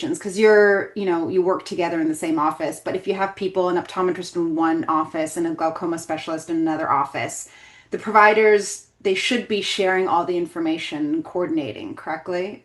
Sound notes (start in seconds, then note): none